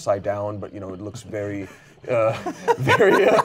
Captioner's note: laughs